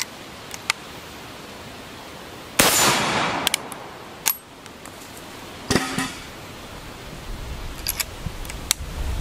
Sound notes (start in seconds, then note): 2.6 gun bangs; 3.2 gun cocking